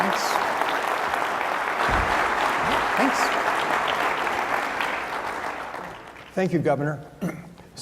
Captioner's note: applause